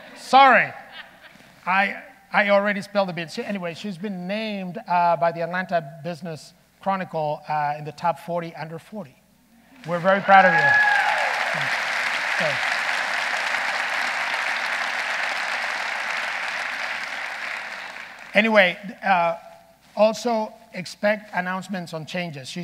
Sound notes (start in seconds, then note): 12.1 audience applauding